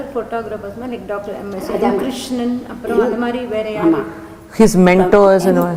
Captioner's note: in Tamil